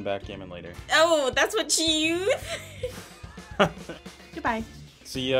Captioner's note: laughing